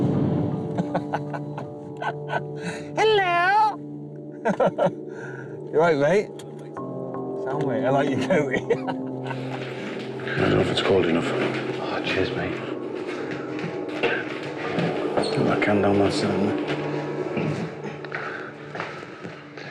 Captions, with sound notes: [laughing] Hello! You running late? - I dunno if it's cold enough. - Ah, cheers mate.